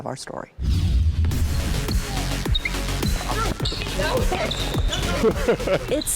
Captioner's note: screen whooshes; upbeat music